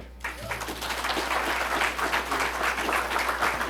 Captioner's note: applause